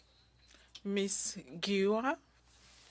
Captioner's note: speaking French